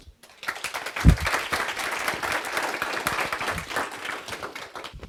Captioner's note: audience applauding